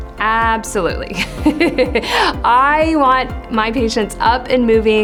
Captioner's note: laughs